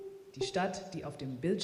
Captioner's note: speaking german